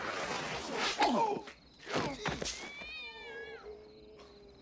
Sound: groans; cat Screeches

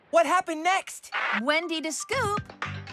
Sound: walkie-Talkie Crackles

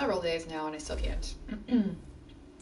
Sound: clears throat

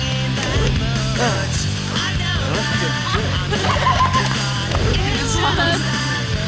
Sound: Squib grunts and groans; group laughs

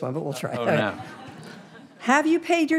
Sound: audience laughing

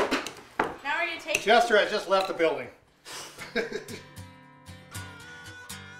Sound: laughing

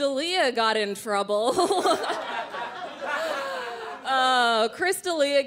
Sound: crowd laughing

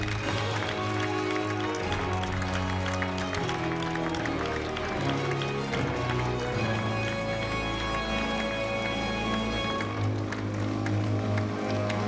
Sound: applause

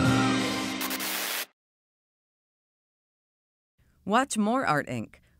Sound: bright jazzy music; static hisses

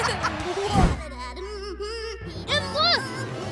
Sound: laughing; humming

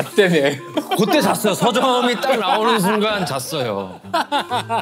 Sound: confident

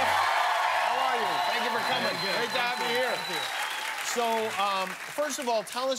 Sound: cheers and applause

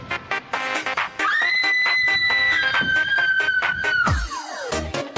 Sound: upbeat music playing; girl screaming; upbeat music playing

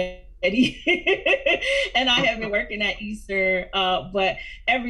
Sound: laughs

